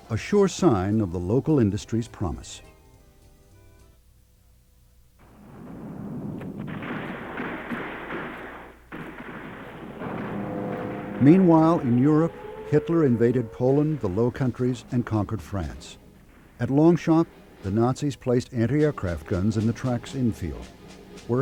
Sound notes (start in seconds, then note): 6.4 guns banging